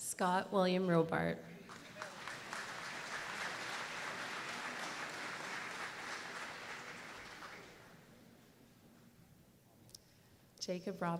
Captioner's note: applause